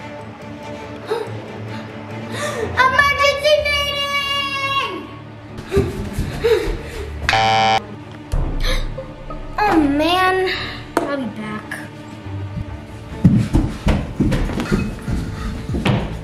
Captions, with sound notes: Emergency meeting! (button buzzing) - Oh man, I'll be back. (feet thudding)